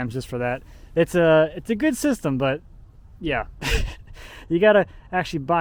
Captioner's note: laughs